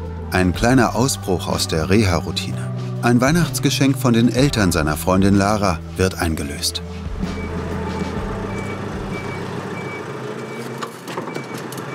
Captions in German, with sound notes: Ein kleiner Ausbruch aus der Reharoutine. Ein Weihnachtsgeschenk von den Eltern seiner Freundin Lara wird eingelöst. (Hohes, leises Piepsen)